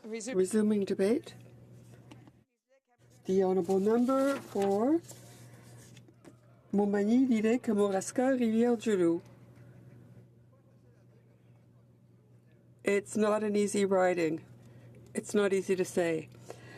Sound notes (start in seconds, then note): 3.1 speaking french